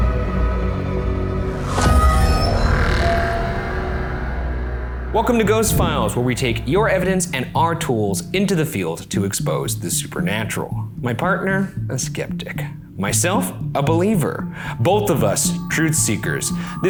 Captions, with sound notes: (air whooshing) (tense ominous music) - Welcome to "Ghost Files" where we take your evidence and our tools into the field to expose the supernatural. My partner, a skeptic. Myself, a believer. Both of us, truth seekers.